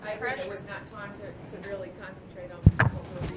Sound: voiceover

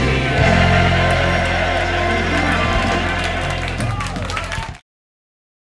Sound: cheers and applause

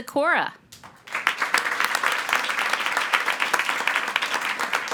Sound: attendees applauding

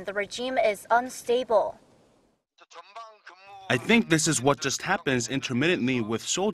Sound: Korean

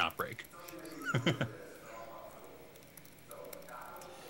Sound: chuckling

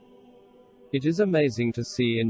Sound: voice reads

